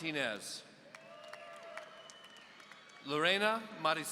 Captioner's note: audience cheering